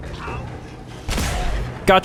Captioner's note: blam!